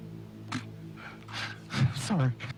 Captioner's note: weeping